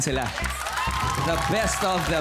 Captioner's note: audience clapping